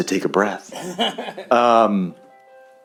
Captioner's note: laughter